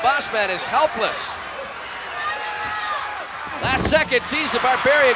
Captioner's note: applause